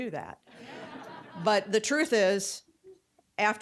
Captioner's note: audience laughing